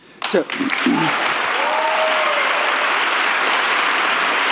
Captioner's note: audience applauding